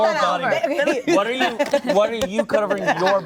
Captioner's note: laughter